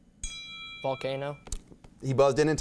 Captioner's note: beeping; bell dinging